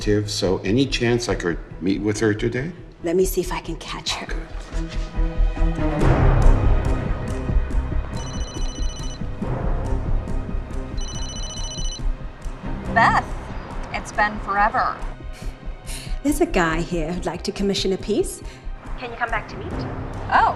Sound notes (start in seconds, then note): 5.0 tense music; 8.2 phone rings